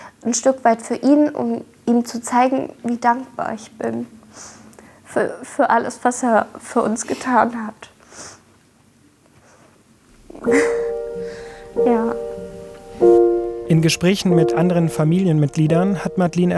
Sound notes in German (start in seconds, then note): 7.9 Schniefen; 10.1 Gefühlvolle, traurige Musik